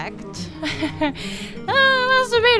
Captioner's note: laughter